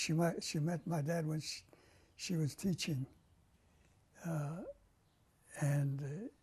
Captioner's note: pauses for 3 seconds